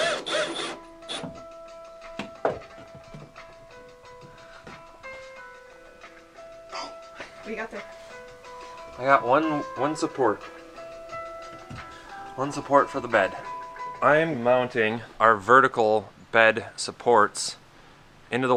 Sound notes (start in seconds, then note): 0.0 drill whirring; 6.6 gasps